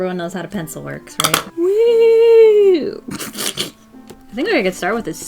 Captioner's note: laughs